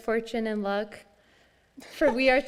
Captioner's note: laughs